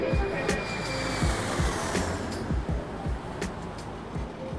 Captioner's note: jet engine roars